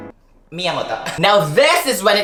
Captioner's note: speaks Japanese